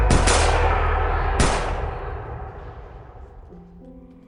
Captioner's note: guns firing; soft piano music